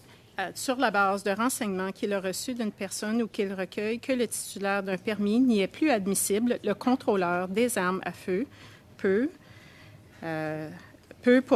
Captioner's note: speaking French